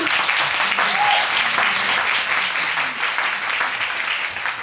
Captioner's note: applause